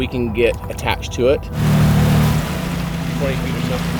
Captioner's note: motor boat whirring; water splashing